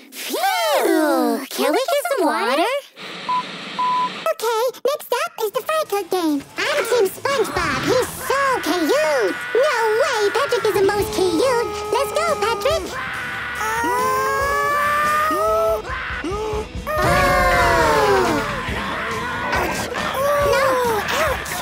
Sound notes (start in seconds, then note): 3.7 beeping